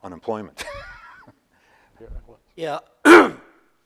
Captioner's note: laughs